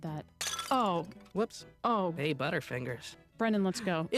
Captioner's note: jar breaks